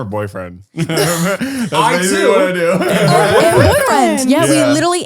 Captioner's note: laughing, unintelligible